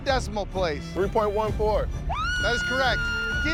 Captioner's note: shouts